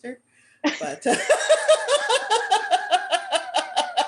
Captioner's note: laughter